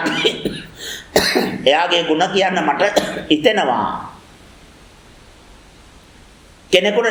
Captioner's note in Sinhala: කැස්ස; උගුර කෑරීම